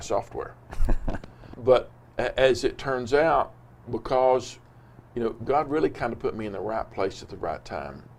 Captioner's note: laughs